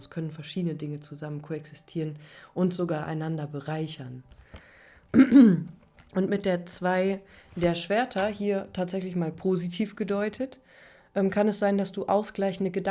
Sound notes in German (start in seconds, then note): 5.1 husten; 5.1 räuspern